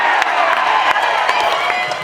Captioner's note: cheering